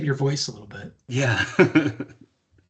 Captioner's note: chuckling